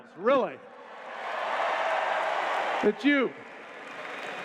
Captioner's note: cheers